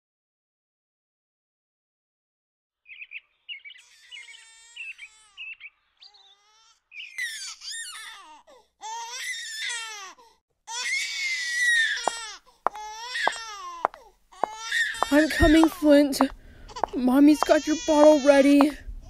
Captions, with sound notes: [Bird Chirping] [Baby Flint Crying] I'm coming, Flint. Mommy's got your bottle ready.